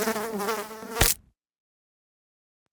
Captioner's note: fly buzzing; fly splatting